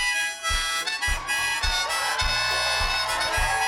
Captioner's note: cheers and applause